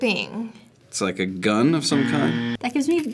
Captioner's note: buzzer